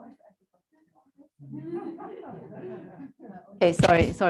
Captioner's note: laughter